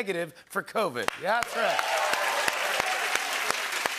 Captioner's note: cheers and applause